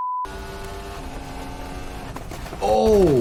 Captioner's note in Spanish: el motor ruge